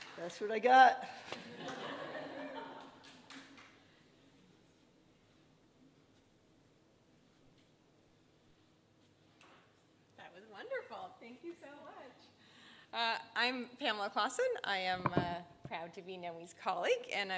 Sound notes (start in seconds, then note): 1.4 audience laughing